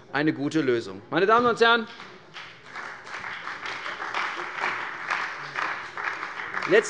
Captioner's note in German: Beifall bei der CDU und dem BÜNDNIS 90/DIE GRÜNEN